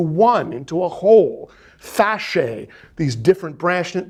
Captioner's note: speaking in foreign language